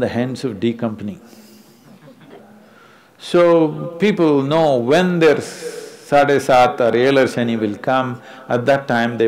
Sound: laughter

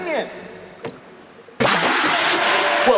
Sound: bang!

